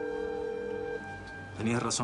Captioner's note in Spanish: Suena el celular